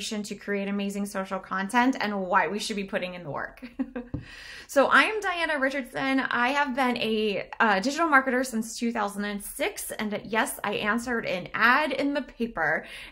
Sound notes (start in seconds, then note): 3.6 chuckles